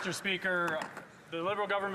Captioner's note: some Applause